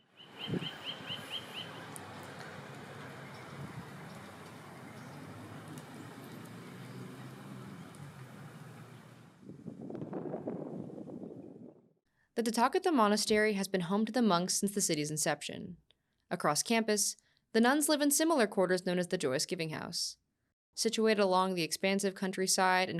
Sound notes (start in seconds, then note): 0.0 birds chirping; 4.1 gentle breeze blowing; 9.3 wind whooshing